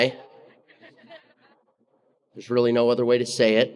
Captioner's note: audience laughing